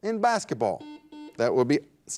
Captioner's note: buzzer dings